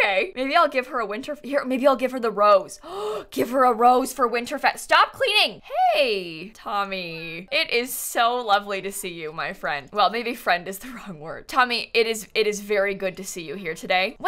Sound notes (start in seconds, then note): 2.8 gasps